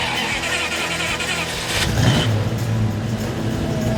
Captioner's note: engine startup